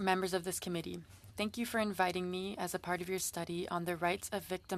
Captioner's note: speaking French